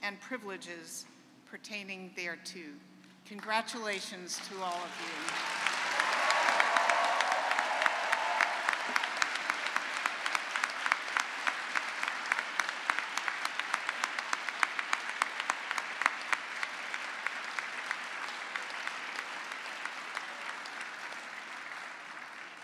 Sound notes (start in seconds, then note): 8.5 cheering and applause